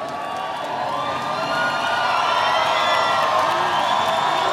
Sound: audience cheering

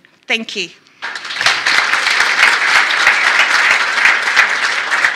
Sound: applause

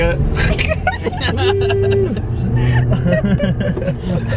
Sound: giggling

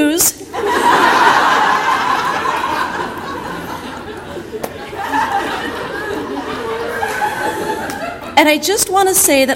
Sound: audience laughter

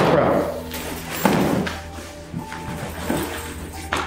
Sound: bag rustling

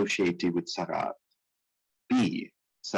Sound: speaking in foreign language

